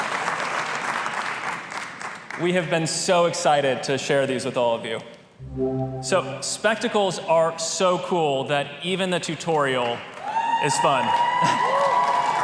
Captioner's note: applause